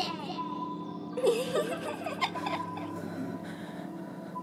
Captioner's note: child giggles